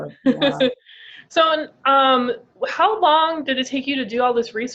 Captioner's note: laughs